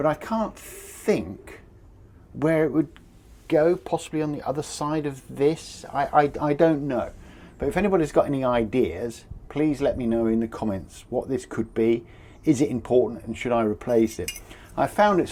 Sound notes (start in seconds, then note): none